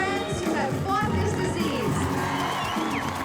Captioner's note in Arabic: هتاف